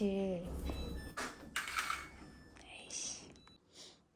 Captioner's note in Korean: 세탁기 다 된 소리